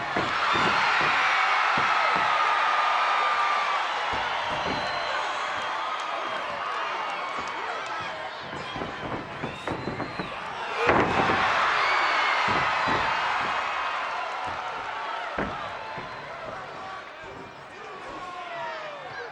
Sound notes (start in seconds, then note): 0.2 crowd cheering; 10.8 bodies thud; 11.6 crowd cheering; 16.5 crowd yelling